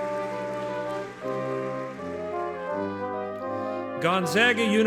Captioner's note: audience clapping